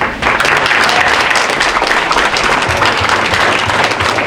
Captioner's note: audience applauding